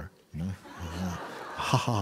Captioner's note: laughter